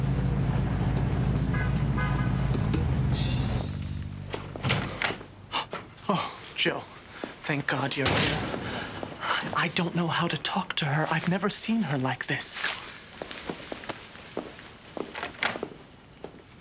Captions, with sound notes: (door opens) (gasping) - Oh, Joe. Thank God you're here. I don't know how to talk to her. I've never seen here like this. Come on.